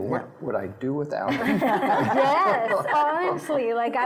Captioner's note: laughing